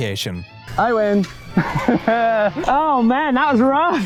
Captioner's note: laughs